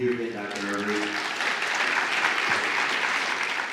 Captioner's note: applause